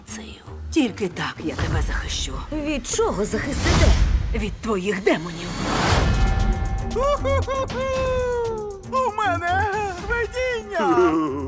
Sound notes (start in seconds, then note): 5.8 bell tolls; 6.9 chuckles; 6.9 laughing